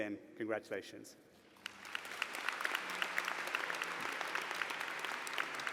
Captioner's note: applause